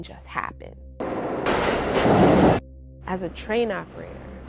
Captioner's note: train roaring